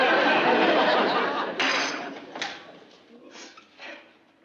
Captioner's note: dish clatters